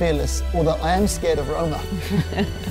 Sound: giggling

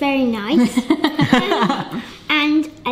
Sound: laughing

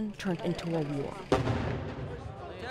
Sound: explosion

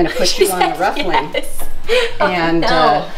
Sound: laughing

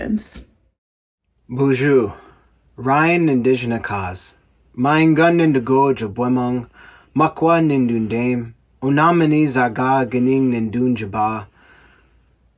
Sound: speaking Ojibwe

